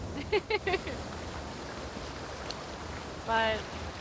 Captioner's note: Fern laughs